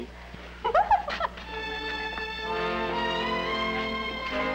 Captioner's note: Peggy giggling